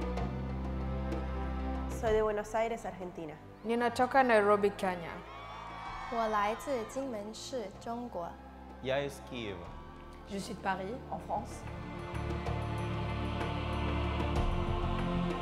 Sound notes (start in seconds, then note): 6.3 woman speaks foreign language; 8.9 man speaks foreign language